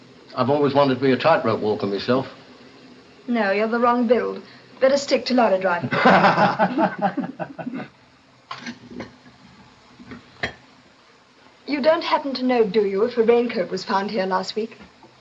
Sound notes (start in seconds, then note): 5.8 laughs